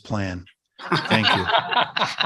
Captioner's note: laughter